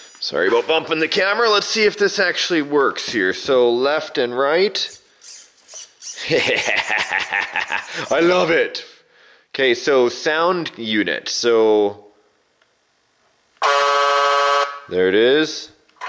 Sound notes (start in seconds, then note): 6.4 cackling; 13.8 honking